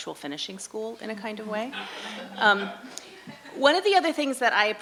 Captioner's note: audience laughing